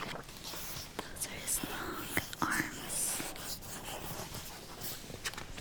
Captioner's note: paper scratching